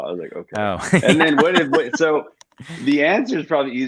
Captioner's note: laughs